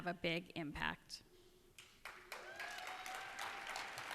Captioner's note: cheers and applause